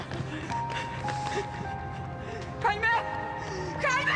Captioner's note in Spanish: Sollozos